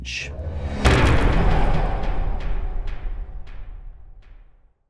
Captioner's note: impact